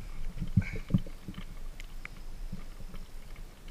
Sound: boat sounds

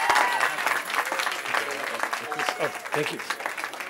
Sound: cheering

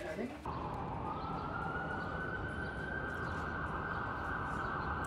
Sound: sirens wailing

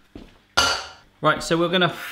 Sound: bang

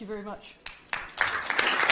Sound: audience clapping

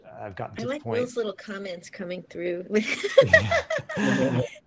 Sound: laughs

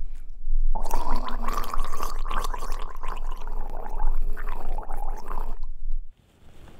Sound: gargles

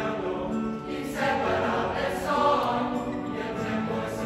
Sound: voices

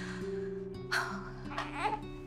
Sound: baby cooing

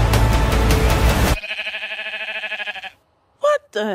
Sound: sheep baas

